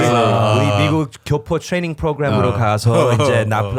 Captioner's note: Korean